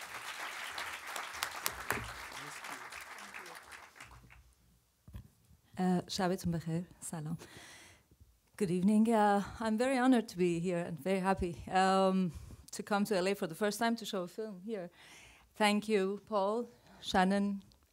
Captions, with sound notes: [audience applause] [Farsi, in Persian] Good evening. I'm very honored to be here and very happy to come to L.A. for the first time to show a film here. Thank you, Paul, Shannon,